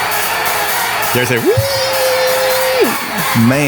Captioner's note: mimics mechanical whine